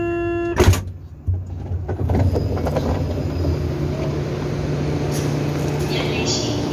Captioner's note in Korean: 출입문 열림